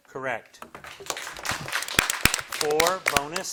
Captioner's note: audience applauding